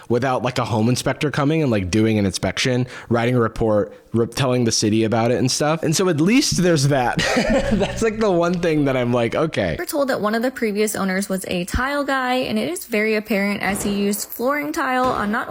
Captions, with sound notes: without a home inspector coming and doing an inspection, writing a report, telling the city about it and stuff. And so at least there's that. (laughs) That's the one thing that I'm like, "OK."